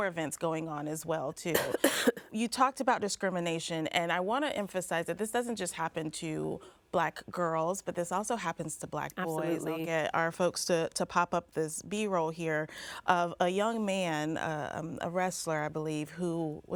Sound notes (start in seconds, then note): 1.5 coughs